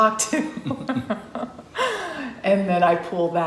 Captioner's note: laughs